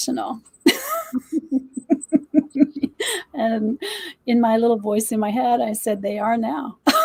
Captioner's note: laughter